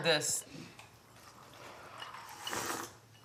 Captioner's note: slurping